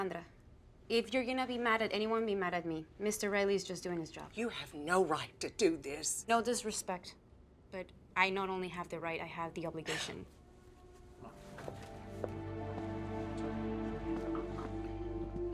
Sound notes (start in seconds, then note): 9.8 Louisa scoffs; 11.1 somber music